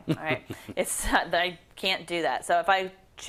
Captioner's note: laugh